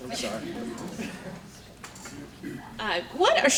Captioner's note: audience laughing